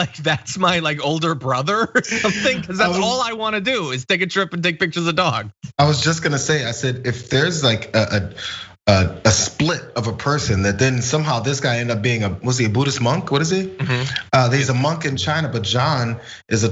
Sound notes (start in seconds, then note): 1.8 laugh